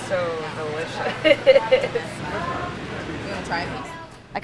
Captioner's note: laugh